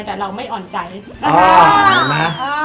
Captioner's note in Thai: เสียงเอฟเฟกต์